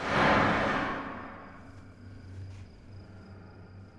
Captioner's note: loud bang